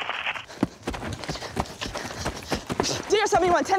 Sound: running footsteps

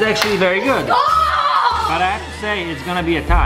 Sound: screams

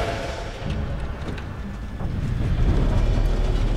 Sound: door opens

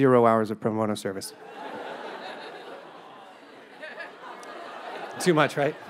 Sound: audience laughs

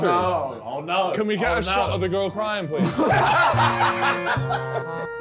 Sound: laughing; accordion music

